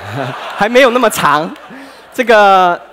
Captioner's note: laughter